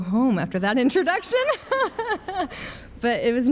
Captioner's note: laughs